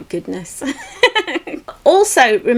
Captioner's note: laughs